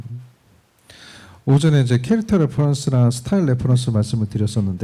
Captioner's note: speaking korean